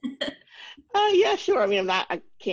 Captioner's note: chuckles